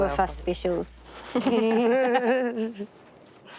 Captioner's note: laughs